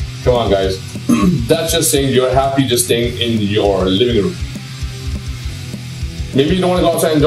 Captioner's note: clears throat